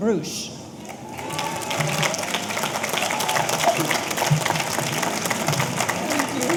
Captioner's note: audience applauding; audience cheering